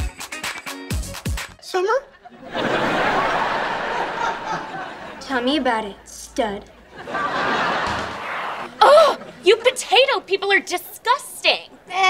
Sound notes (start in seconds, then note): 2.1 laughing; 6.8 laughing